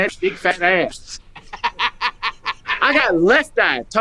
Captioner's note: woman laughing